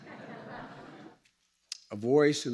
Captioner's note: laughter